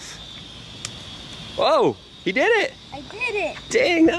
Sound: hollow snapping

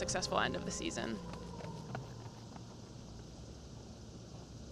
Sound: clomping of runners

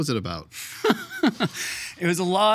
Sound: laughing

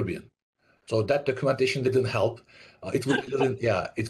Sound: laughs

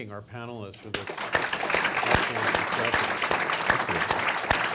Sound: audience applauds

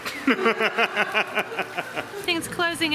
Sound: laughter

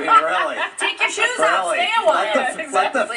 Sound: laughing

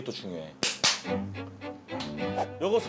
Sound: clap

